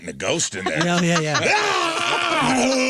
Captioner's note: screaming